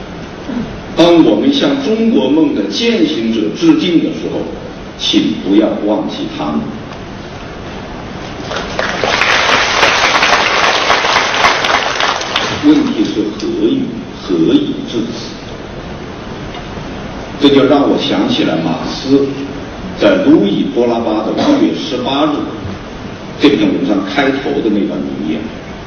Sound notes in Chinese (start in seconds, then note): 8.4 掌声